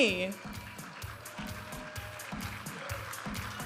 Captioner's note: audience applauding and cheering; vibrant music